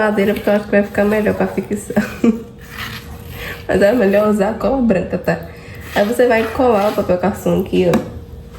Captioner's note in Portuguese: risadas